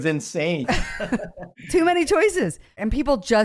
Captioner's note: both laugh